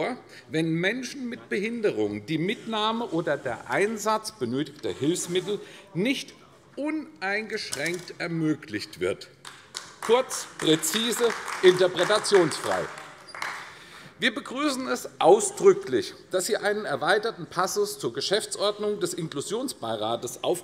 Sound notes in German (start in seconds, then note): 13.0 Beifall AfD